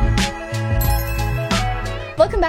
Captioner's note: bright gentle music; text chimes